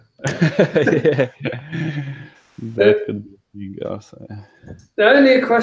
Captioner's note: laughing